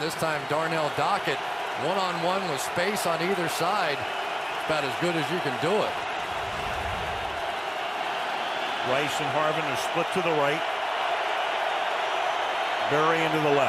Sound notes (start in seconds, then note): 7.2 crowd cheering